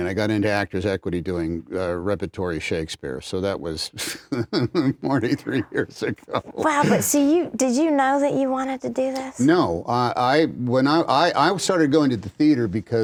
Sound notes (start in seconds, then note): 4.0 laughs